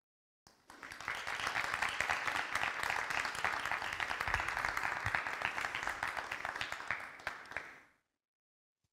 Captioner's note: audience clapping